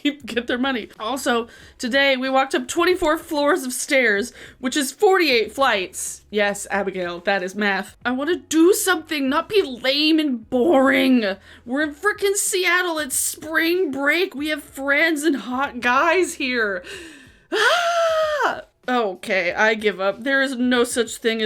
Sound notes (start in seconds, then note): 17.4 mimics screaming